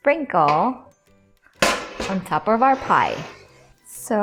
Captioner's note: baking sheet thuds